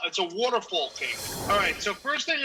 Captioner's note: screen whooshes